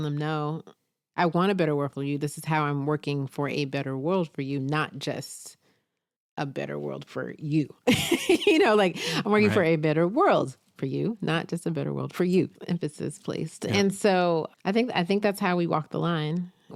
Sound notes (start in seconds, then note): 7.8 laughs